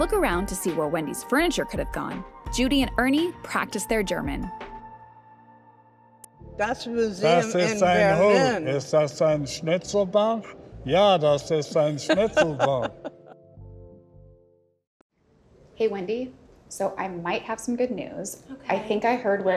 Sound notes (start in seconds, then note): 6.6 speaking German; 11.7 laughs